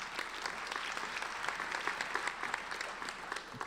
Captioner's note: applauding